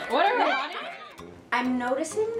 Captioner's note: laughter